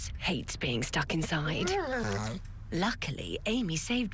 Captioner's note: dog whines